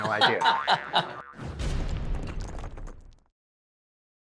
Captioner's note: laughing